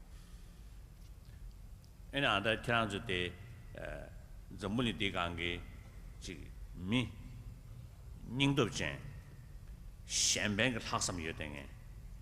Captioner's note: foreign words